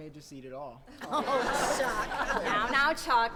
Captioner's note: laughs